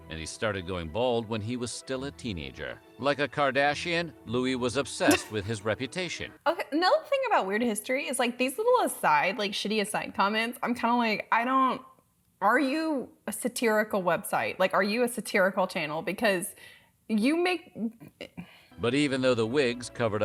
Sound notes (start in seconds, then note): 5.1 laughing